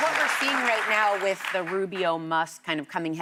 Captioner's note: applause